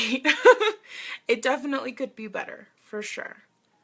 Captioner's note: laughs